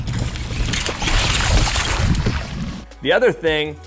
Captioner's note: water splashing